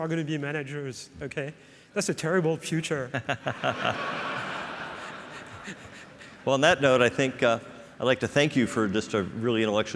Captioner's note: laughs